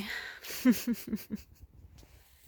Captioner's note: laughs